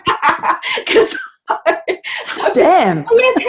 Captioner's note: both laugh